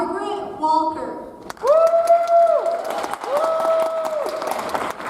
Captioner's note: audience applauds